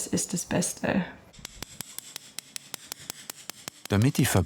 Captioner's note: quick, pointed hammering